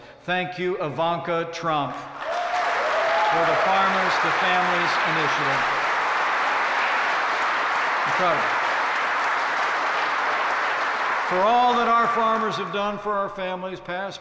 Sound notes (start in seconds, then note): 2.5 applause; 6.2 applause